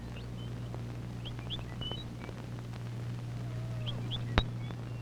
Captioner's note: birds chirping